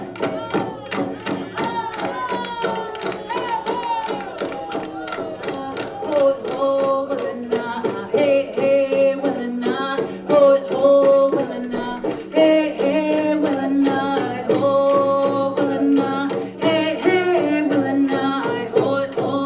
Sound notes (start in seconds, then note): 0.2 shouting; 6.1 chanting